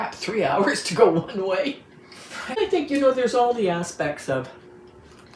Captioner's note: laughs